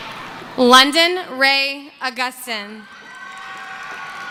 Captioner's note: cheering